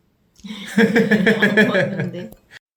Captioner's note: laugh